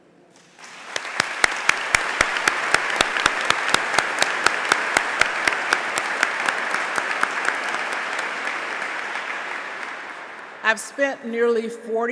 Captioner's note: applause